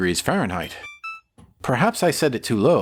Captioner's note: beep beep